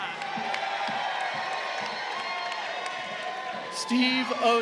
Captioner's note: crowd cheering